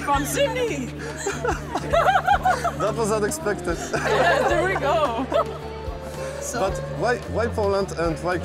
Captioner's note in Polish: śmiech